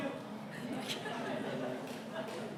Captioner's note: laughter